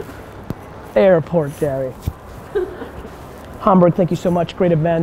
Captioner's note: chuckles